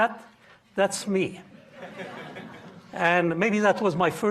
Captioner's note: audience laughing